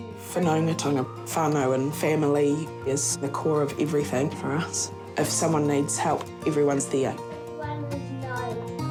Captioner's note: none